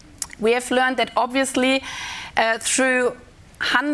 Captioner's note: in German